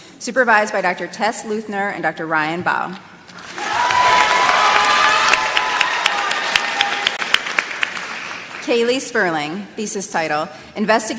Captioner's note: applause